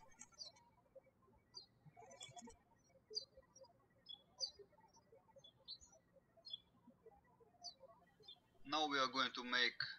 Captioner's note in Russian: птички щебечут